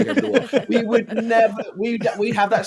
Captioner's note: all laughing